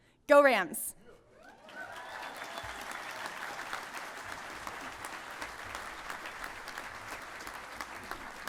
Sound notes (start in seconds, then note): 2.1 applause